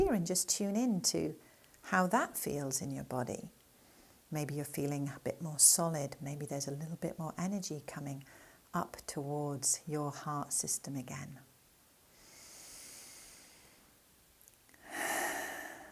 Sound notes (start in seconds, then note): 12.4 breathing gently